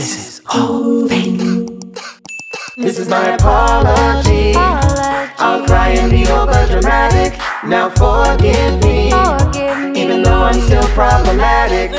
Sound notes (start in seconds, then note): 1.5 crying; 2.2 notification bell dings